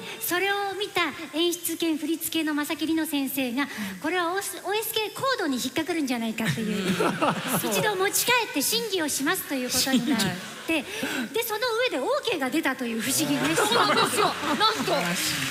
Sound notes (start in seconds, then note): 6.4 laughter